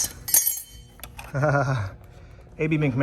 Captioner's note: chuckles with enjoyment